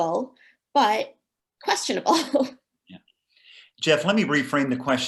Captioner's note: laughing